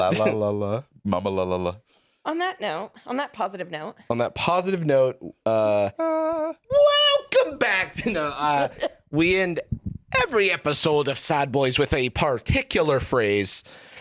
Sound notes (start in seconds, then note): 5.5 harmonizing; 6.9 scottishly